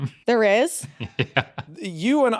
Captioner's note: chuckles